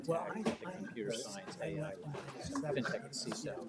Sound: murmuring

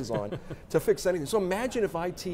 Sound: chuckles

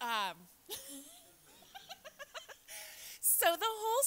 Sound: laughs

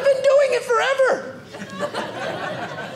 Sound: audience laughing

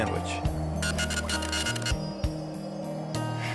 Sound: scratching noise

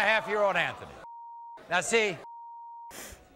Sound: beep

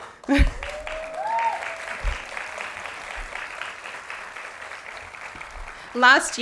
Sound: applause

